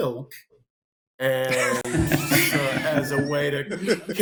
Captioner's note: laughter